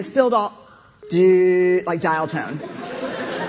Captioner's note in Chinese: 電話斷線聲; 笑聲